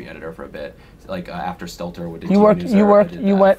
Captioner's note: murmurs